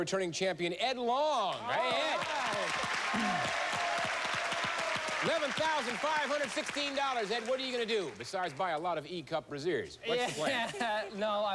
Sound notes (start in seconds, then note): 3.2 applause; 10.5 chuckles